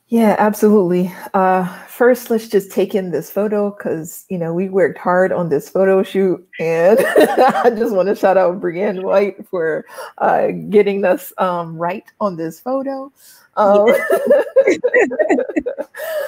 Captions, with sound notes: - Yeah, absolutely. First let's just take in this photo because, you know, we worked hard on this photo shoot, and (laughs) I just want to shout out Brianne White for getting us right on this photo (laughs).